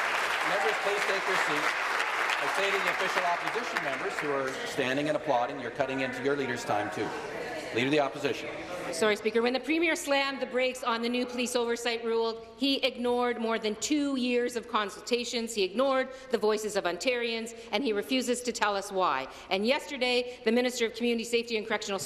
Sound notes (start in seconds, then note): 1.9 applause